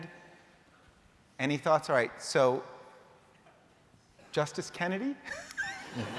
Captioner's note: laughter